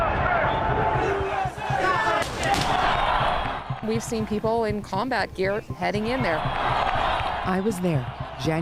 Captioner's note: chanting